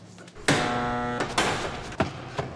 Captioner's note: buzzer